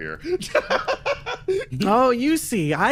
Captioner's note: laugh